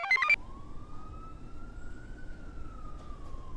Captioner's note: computer chirps; siren wails